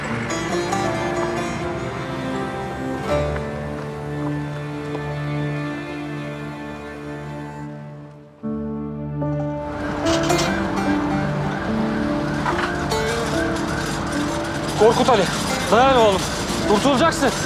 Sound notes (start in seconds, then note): 9.3 emotional music continues; 9.7 siren sounds